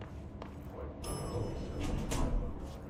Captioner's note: elevator bell rings